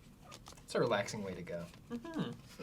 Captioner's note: pat